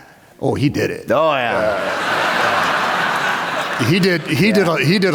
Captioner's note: laughter